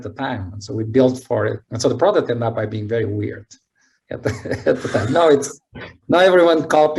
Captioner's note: laughs